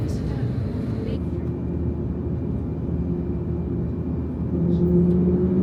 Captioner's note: engines humming faintly; engines humming accelerating